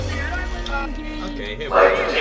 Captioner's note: random talking